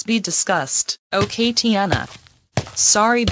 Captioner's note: footsteps